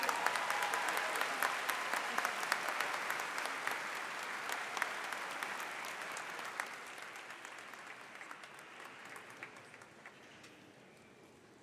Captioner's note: applause